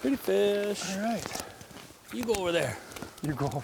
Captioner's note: voiceover; voiceover